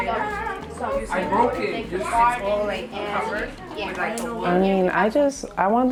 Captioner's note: students talking, voices overlapping